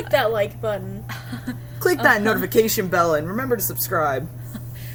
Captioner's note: laughs